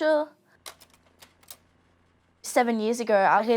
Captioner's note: clicking